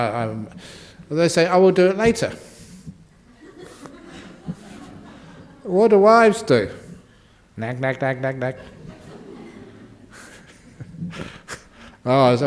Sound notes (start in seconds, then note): 3.2 laughter; 10.4 laughs